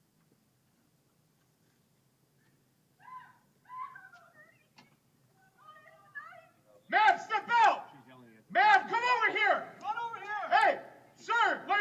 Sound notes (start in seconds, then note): 3.6 victim screaming